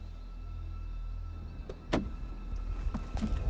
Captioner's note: car door opens